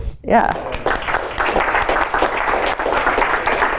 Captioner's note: applause